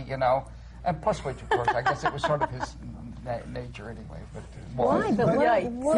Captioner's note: laughter